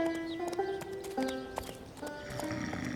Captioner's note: snoring